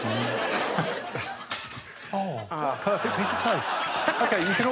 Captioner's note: toaster pops